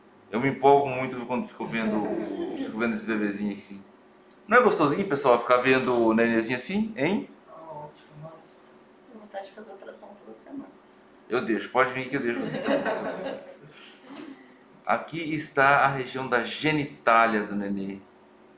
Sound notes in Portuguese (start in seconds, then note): 12.1 risos